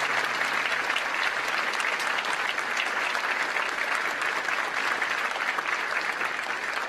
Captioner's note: applause